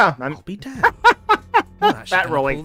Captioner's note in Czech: smích